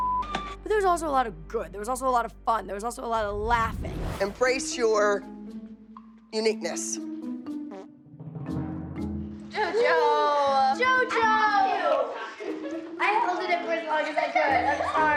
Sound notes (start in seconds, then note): 7.2 whimsical music playing; 7.7 flatulence